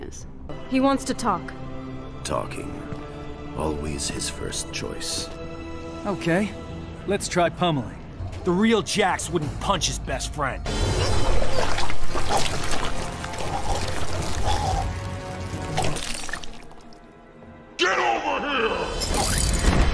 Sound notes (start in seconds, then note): 11.1 buggy gurgles